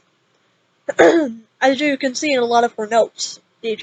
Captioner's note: cough x5